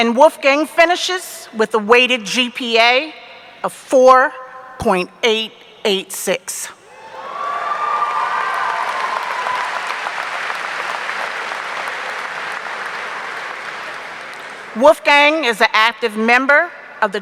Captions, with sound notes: and Wolfgang finishes with a weighted GPA of 4.886. (audience cheering) (audience applauding) Wolfgang is an active member